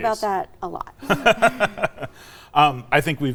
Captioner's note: both laughing